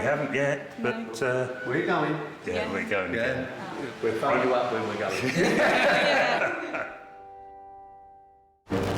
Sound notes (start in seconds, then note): 5.1 all laughing